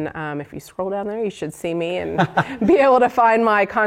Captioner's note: laugh